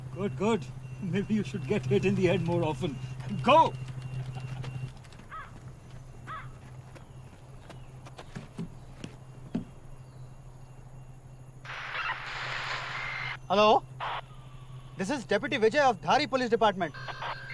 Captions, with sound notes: Good, good. Maybe you should get hit in the head more often. Go! [radio static] Hello. This is Deputy Vijay of the police department.